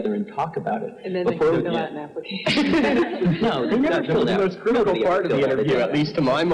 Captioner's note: laugh